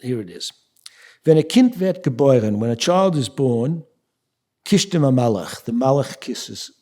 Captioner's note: speaking yiddish